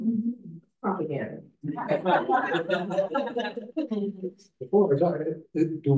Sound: everyone laughs

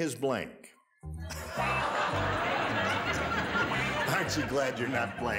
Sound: audience laughs

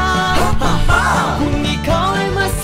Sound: haHaHa!

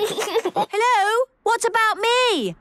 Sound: giggles

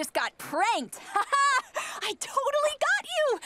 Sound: laughs

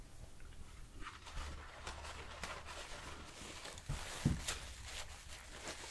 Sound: Kleenex sound

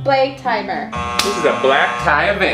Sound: buzzer buzzing

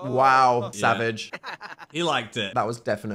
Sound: Evan and Dil laugh in unison

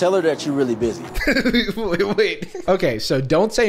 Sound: laughs

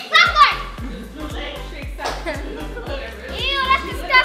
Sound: indistinct chatter

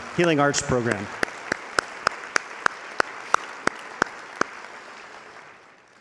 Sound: audience applauding

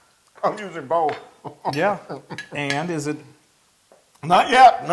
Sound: laugh

